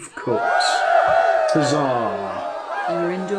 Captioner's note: cheering